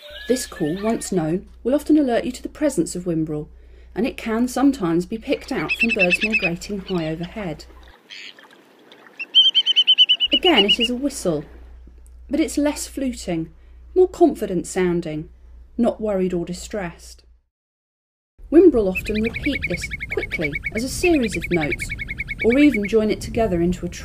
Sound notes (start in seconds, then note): 9.2 calls